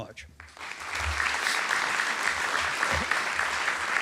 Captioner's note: applause